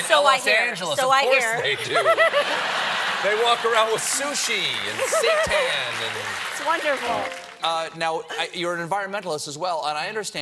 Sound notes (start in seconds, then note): 1.6 laughter